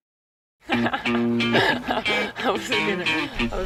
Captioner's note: laughing